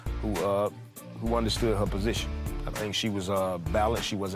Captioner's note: none